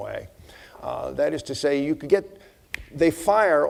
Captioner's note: snapping fingers